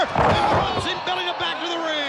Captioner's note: body thudding